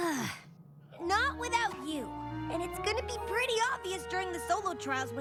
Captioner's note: sighs